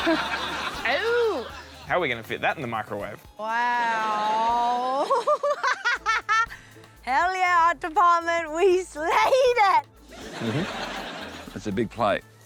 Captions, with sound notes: Oh. How are we going to fit THAT in the microwave? Wow. (LAUGHS) Hell, yeah, art department. We slayed it. Mm-hm. It's a big plate.